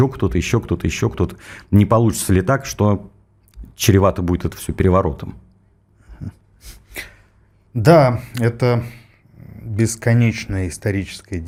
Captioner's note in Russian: фыркает